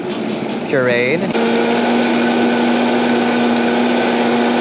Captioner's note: blender whirring